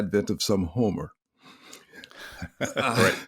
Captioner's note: laughs